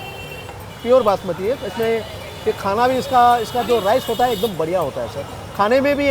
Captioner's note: speaking in foreign language